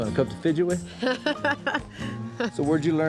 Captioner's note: laughs